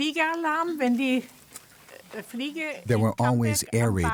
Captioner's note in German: spricht Deutsch